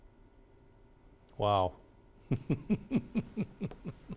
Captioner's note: chuckles